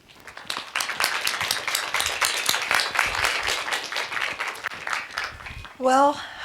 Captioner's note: applause